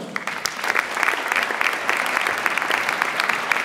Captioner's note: audience applauds